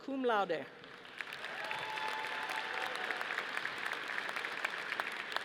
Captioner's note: audience applauding